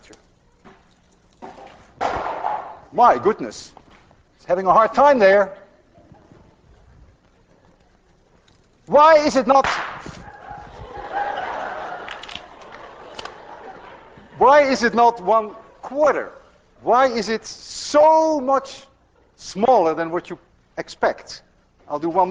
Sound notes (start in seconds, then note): 0.2 can clanks, clatters onto floor; 9.6 balloon pops; 10.1 class laughs